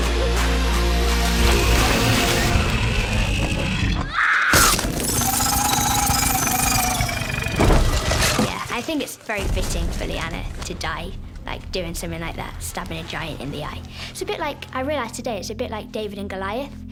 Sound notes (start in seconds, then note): 2.6 screams; 5.0 roars